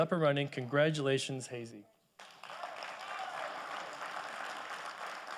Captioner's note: audience applauding